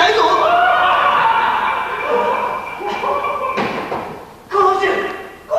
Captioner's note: americans laugh